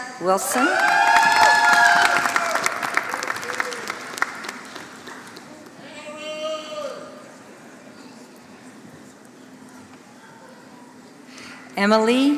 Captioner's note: applause